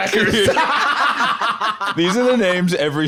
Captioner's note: all laughing